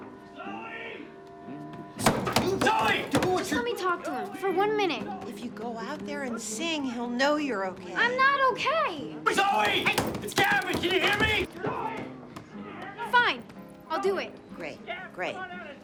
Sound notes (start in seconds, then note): 2.0 pounding; 9.3 pounding